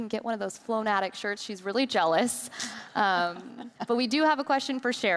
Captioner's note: group laughing